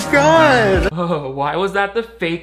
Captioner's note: shivering